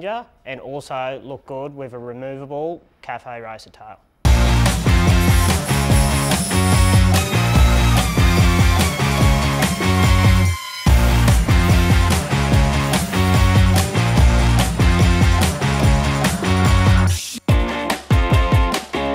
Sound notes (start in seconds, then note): 3.9 upbeat music; 6.8 tool whines